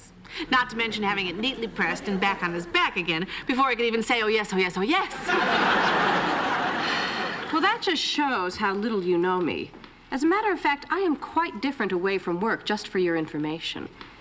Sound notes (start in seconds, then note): 5.1 laughter; 6.8 sighs